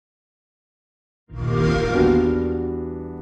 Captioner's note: xbox sound